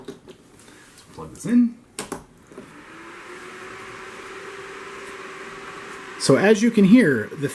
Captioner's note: Soliton Fans Whirring